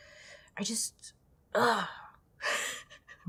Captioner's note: laughs